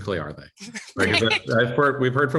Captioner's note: laughter